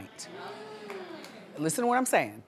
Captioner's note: audience hums